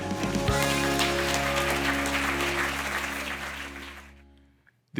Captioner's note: crowd applauding